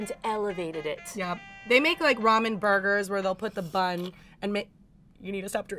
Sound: slurps

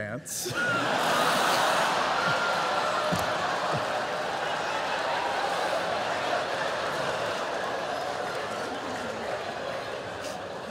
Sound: laughter

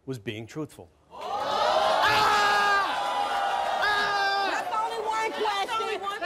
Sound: cheers; screams

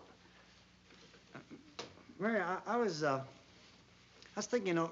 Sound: stammers

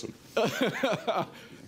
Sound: laughter

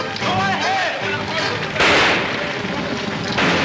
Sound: guns firing; exciting orchestra music

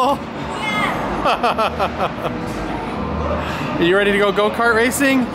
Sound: laughing

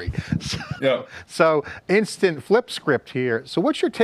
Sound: chuckling

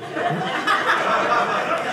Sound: audience laughing

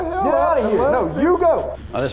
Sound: voiceover

